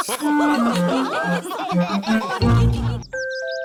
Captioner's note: laughter